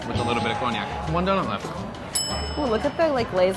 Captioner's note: bell dinging